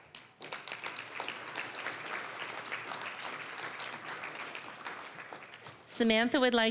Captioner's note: applause